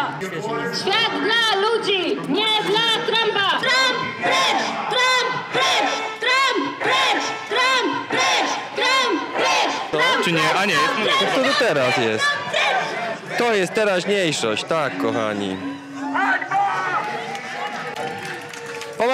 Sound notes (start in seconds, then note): 0.1 chanting